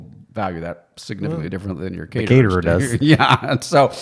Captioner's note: laughs